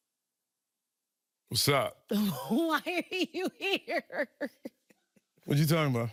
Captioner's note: laughing